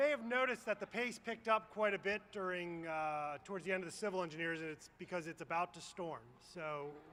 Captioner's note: applause